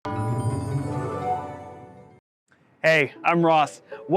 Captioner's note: logo chiming